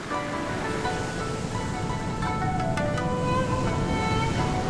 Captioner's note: wind whooshing